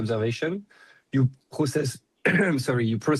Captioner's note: coughs